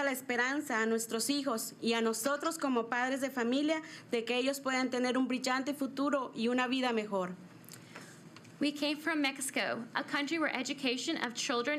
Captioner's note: speaking in spanish